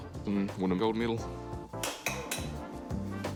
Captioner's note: portafilter clatters